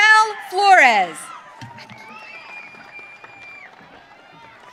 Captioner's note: audience cheering